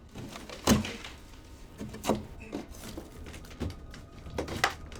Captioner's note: drywall cracking